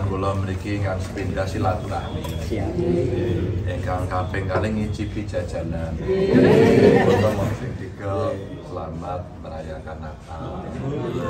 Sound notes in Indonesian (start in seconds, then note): 6.1 tertawa